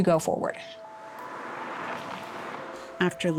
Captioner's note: traffic humming